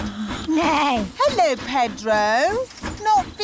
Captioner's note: neighs